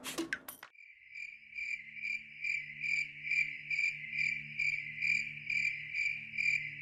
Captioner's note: crickets